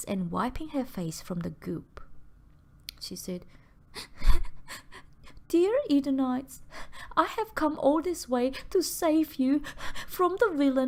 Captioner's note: sob